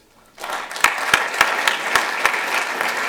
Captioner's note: applause